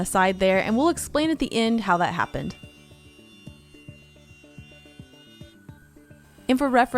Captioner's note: loud sound of router